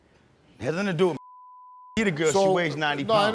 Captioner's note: beep